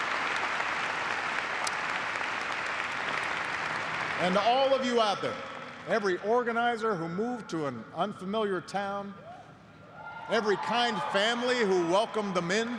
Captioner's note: applause